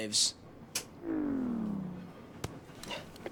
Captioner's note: powering down sounds